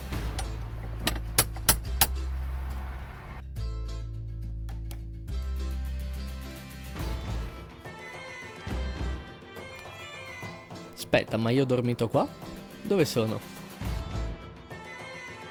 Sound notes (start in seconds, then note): 2.0 knock knock knock